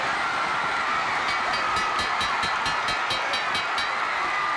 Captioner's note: bell ringing